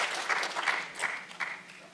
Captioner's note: applause